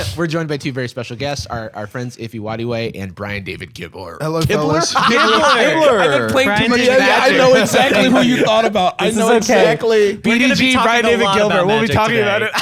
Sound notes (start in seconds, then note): 4.3 laughs